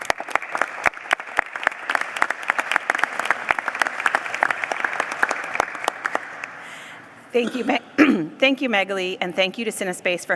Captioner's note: applause